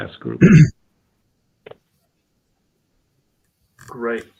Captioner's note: cough